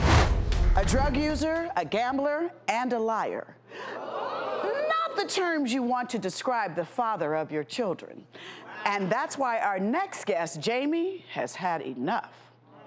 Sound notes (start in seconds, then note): 3.7 audience moaning